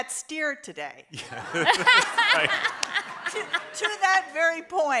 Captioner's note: audience laughs